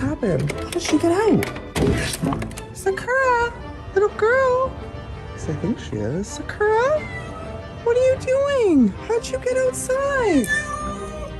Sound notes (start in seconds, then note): 6.7 cat Meows; 10.3 cat Caterwauling